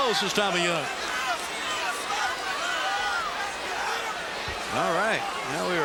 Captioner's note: crowd cheering